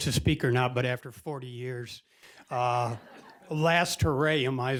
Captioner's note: audience laughing